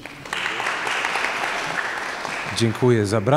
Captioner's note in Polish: oklaski